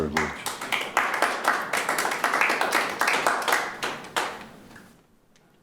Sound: audience applauding

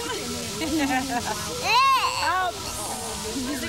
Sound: indistinct chatter

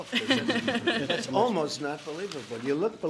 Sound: laughter

